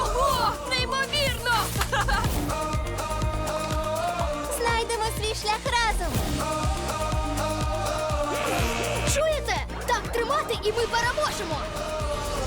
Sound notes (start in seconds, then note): 1.5 laughs; 6.1 upbeat music continues; 8.2 exclaims